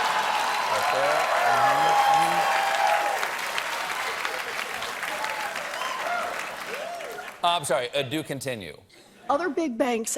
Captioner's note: cheers and applause